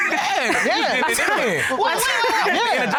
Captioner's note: indistinct chatter; laughs